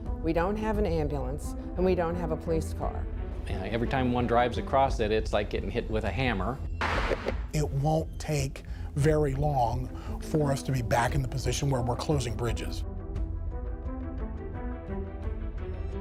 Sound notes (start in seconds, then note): 6.8 banging noise; 13.2 serious music